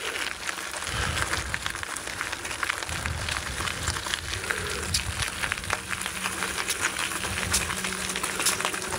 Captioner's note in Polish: Aplauz